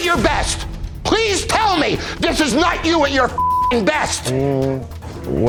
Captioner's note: beep